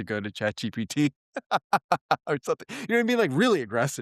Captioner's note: laugh